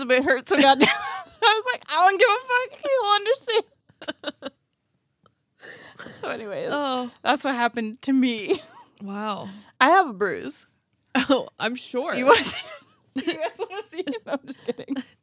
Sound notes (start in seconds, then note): 4.0 laughing